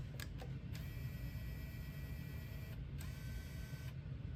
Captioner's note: Wii whirrs to life